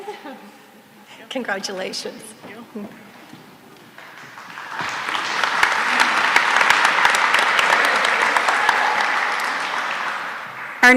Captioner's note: applause